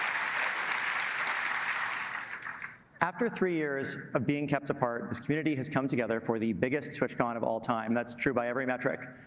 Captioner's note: applause